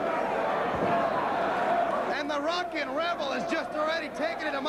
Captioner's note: crowd cheering